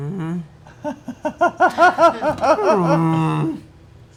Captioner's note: laughs